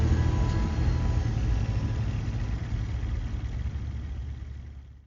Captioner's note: truck engines whirs